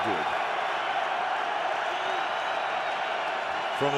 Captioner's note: cheering